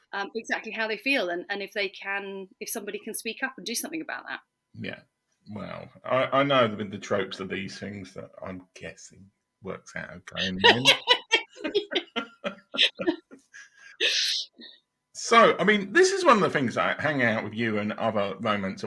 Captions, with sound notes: exactly how they feel and if they can, if somebody can speak up and do something about that. Yeah, well, I know that the tropes of these things that I'm guessing works out of grammar. (laughing) So, I mean, this is one of the things that I hang out with you and other moments